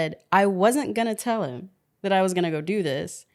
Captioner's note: none